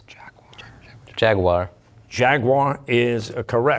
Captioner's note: whispering